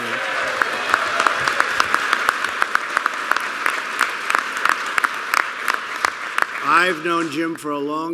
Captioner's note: applause